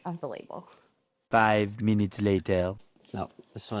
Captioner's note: french Voice